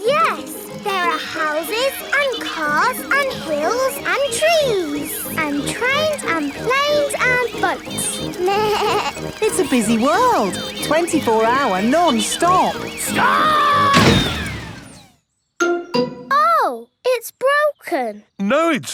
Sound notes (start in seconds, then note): 8.4 bleats; 13.8 thuds